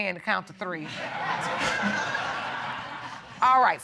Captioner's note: all laughing